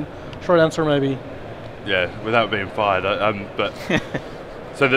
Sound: laughs

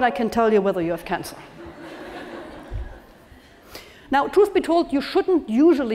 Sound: laugh

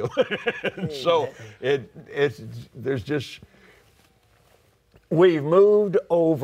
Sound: laughs

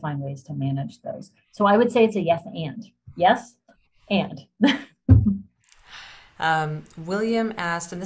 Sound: laughter

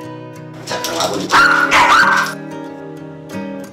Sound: barking

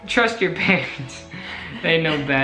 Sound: laughs

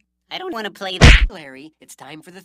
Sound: punch!

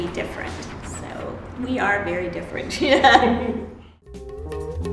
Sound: laughs; upbeat funky music

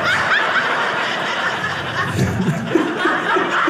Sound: audience laughing

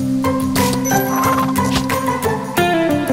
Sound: hoofsteps; chimes

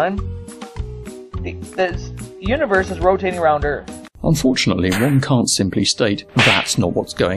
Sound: slapping sounds

